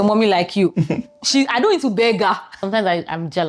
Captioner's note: laughs